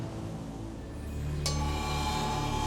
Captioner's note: chimes